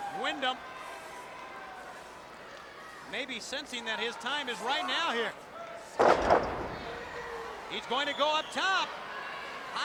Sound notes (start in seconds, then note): 6.0 body thuds